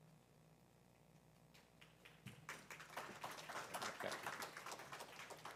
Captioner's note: applause